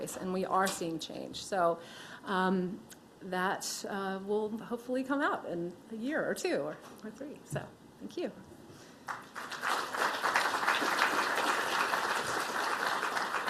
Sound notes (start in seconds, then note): 9.0 applause